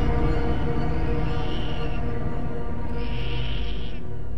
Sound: baby crying

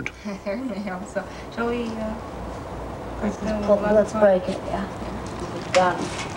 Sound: laughing

